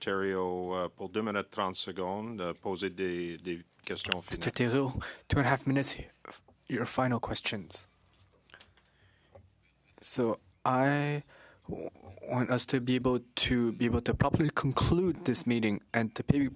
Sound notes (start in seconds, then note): 7.7 speaking French